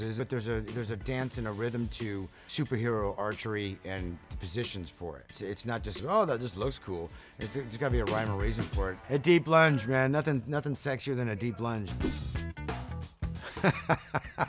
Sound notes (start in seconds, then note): 12.0 upbeat music; 12.0 image whooshing; 13.4 laughs